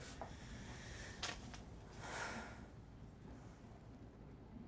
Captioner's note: vivien sighs